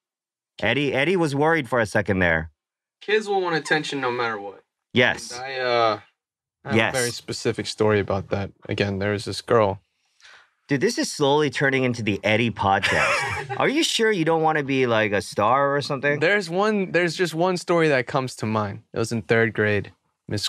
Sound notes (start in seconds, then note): 15.6 chuckles